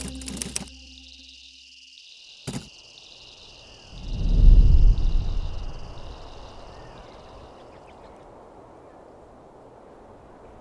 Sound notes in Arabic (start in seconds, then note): 1.2 صراصير الليل تغني; 3.8 هبوب رياح; 7.4 زقزقة طيور